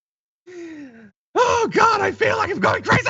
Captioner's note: laugh